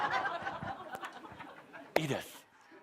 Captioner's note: laughter